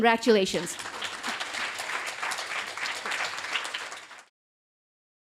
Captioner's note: applause